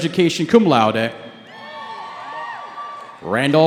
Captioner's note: cheering